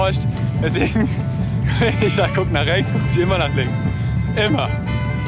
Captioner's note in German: lacht